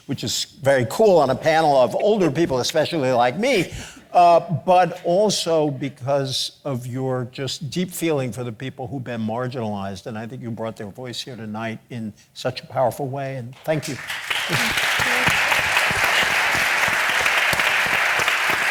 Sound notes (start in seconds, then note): 13.7 audience applauding